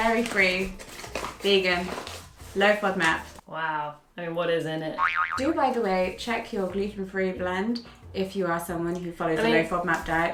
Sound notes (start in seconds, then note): 5.0 boing sfx